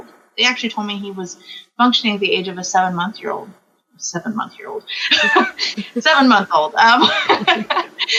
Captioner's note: laughs